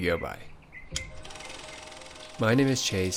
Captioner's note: slide click; piano music